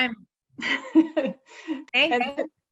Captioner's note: chuckles